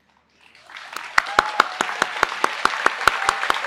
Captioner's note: applause